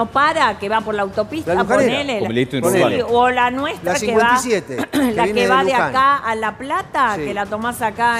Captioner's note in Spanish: carraspeo